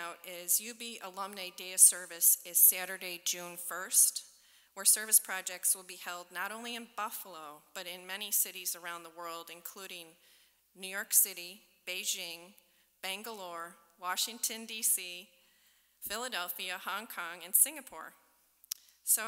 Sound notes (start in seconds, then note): none